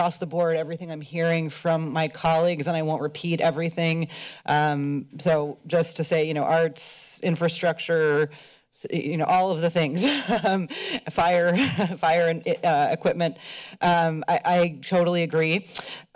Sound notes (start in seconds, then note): 9.9 laughter